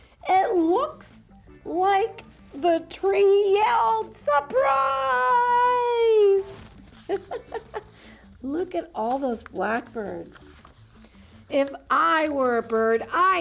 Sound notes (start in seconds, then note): 7.0 laughs